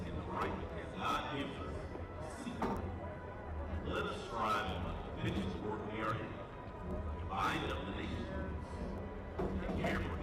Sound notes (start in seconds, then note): none